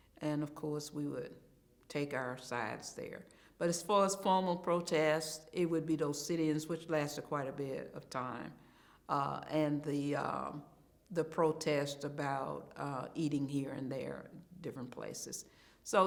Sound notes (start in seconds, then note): none